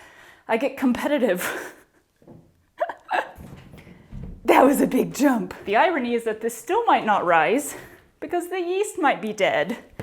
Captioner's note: laughter